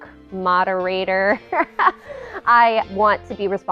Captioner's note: laughs